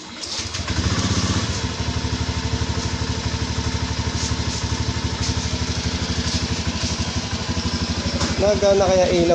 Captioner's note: motorcycle engine